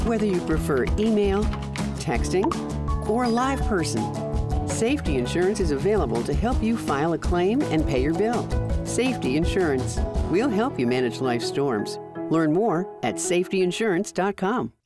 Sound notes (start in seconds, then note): 2.4 cellphone chirps; 3.5 cellphone rings